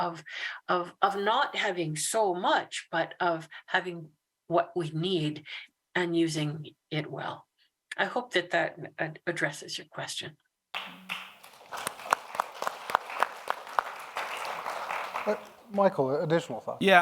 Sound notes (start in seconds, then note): 10.7 audience applauds